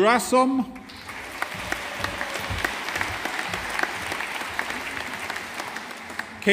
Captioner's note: audience applauding